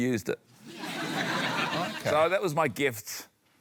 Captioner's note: laughter